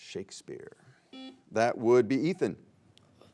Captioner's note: buzzer beeps